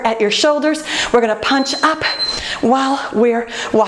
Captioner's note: beeping